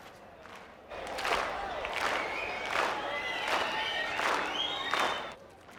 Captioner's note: clapping rhythmically